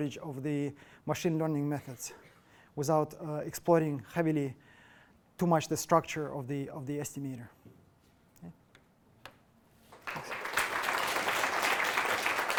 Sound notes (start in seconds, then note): 7.4 applause